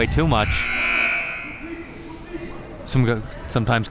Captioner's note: buzzer rings